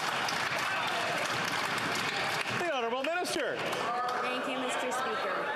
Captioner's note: applause